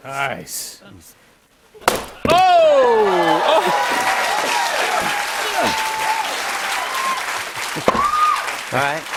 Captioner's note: cheers and applause